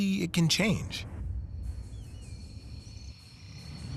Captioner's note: insects chirping